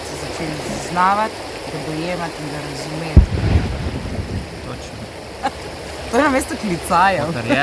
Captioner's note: cannon blasts